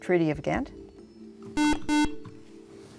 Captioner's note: buzzer